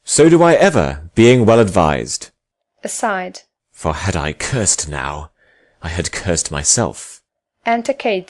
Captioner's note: speaks to himself